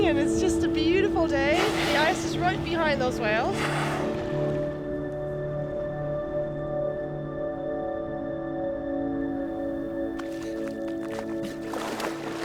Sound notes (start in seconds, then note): 3.6 blowhole spurts; 4.8 serene music; 9.6 light splashing